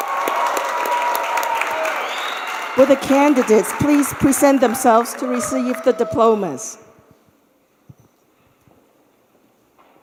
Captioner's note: cheers and applause